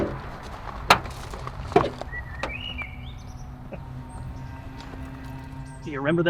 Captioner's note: bird chirping; suspenseful music continues